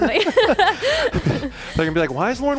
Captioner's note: both laughing